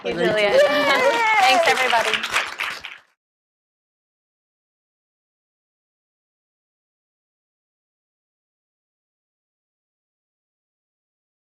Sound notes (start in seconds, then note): 0.6 applause